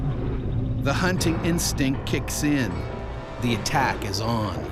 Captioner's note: voiceover